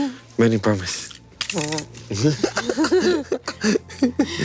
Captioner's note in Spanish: Risas